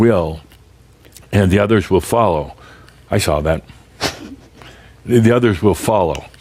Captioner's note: chuckles